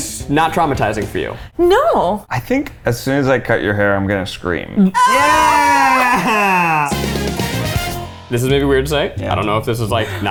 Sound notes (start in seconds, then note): 4.9 everyone shouting; 6.9 upbeat music